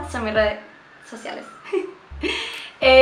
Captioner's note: ambulance passing